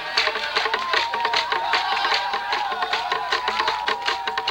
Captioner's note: people cheering